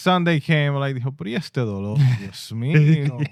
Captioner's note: speaking In Foreign Language